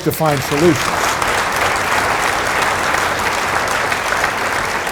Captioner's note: audience applauding